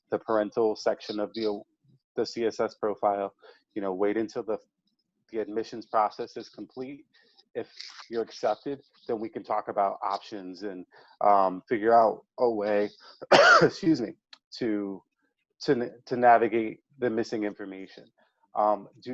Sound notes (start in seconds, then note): 13.0 coughs